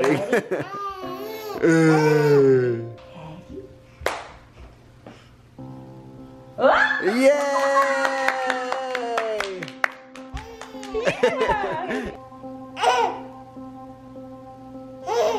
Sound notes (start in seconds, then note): 9.3 clapping